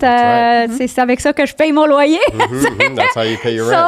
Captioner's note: in french